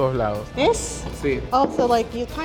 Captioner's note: speaking Spanish